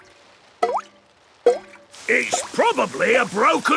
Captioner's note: water dripping